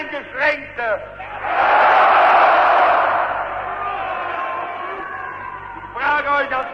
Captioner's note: screams: "Yes!", Applause